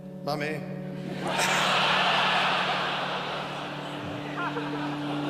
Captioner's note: all laughing